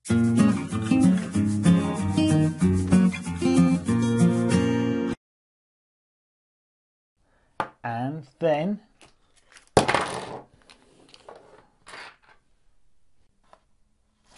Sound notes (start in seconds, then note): 0.0 upbeat music; 9.8 crashing